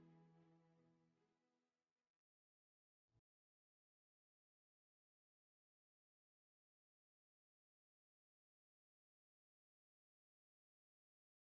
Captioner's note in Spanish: Sin audio